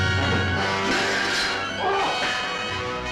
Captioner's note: crying out in pain